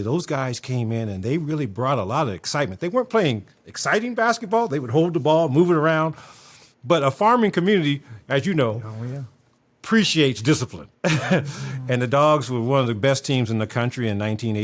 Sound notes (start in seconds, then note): 11.0 laughs